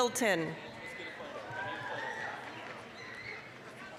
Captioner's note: applause, cheering